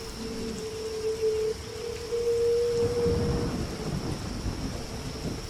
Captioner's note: eerie wind continues